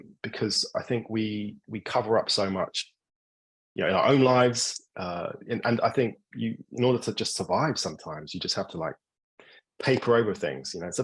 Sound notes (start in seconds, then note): none